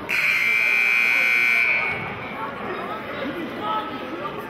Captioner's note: buzzer sounding